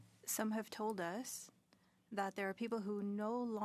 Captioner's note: speaking in French